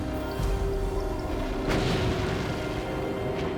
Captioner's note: gunfire